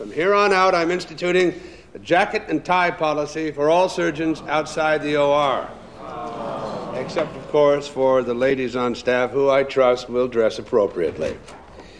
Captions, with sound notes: From here on out, I'm instituting a jacket and tie policy... for all surgeons outside the OR. [ DISGRUNTLED GROANS ] Except, of course, for the ladies on staff... who I trust will dress appropriately.